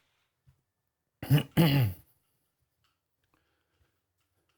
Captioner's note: clears Throat